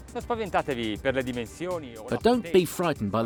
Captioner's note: speaking foreign language